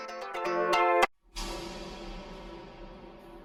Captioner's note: gate closing